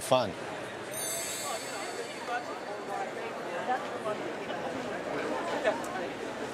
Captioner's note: people chattering; bells lightly chime